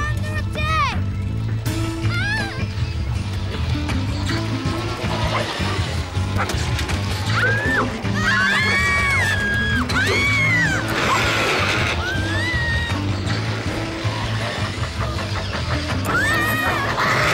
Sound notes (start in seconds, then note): 7.2 kids yelling